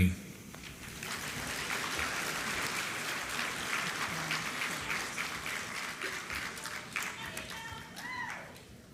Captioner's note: applause